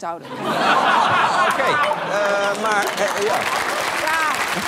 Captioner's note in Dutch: gelach; applaus